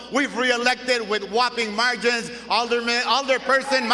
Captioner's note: cheering & applause